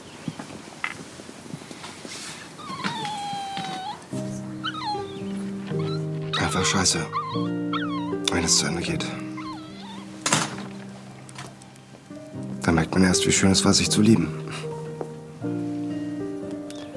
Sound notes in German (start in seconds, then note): 3.3 Trauriges Winseln; 4.7 Melancholische Musik